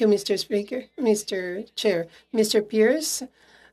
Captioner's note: speaking French